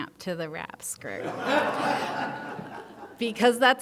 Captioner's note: audience laughing